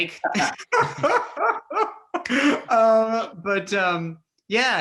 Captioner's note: all laugh